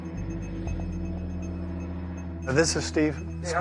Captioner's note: traffic whirring